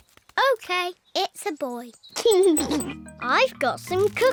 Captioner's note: giggles